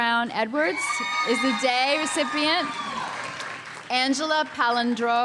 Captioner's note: audience member screams